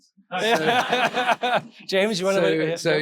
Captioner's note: audience laughing